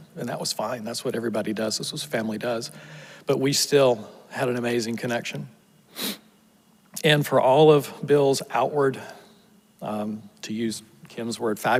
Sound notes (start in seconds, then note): 5.9 sniffles